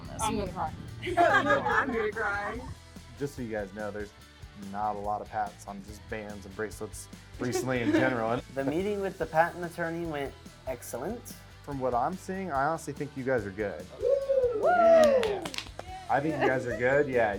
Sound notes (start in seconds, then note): 1.0 laughing